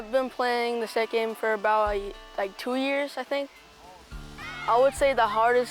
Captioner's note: people shouting